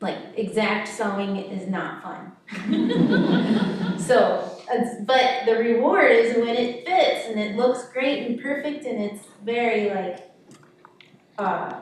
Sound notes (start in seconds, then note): 2.5 audience chuckling